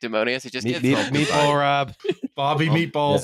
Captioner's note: laughs